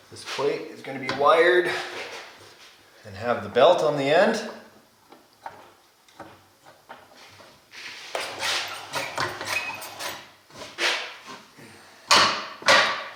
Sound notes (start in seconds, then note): none